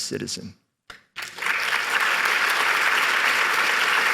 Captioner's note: applause